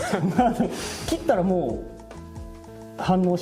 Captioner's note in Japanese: 笑い